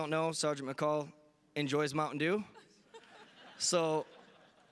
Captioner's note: audience laughing